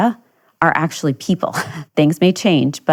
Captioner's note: chuckles